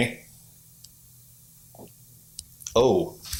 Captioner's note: light knock